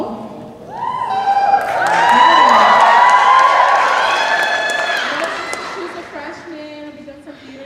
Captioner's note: cheers